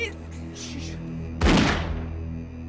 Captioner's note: gun shot